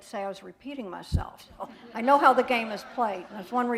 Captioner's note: laughter